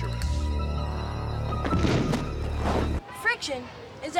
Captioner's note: thud